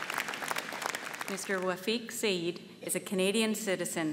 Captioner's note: applause